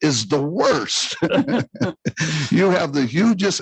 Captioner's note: laughs loudly